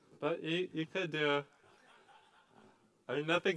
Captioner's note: laughter